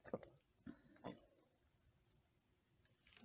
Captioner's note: none